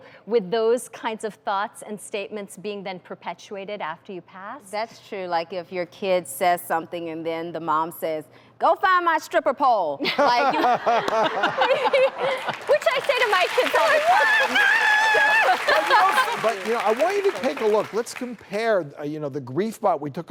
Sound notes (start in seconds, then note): 10.1 laughing; 15.0 audience applauding